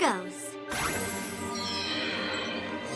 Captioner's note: tinkling